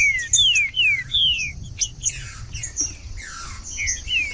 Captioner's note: trinca ferro cantando